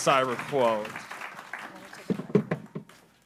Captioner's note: applause